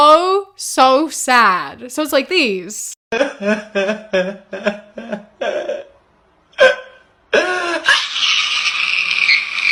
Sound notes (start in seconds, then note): 2.9 screaming and sobbing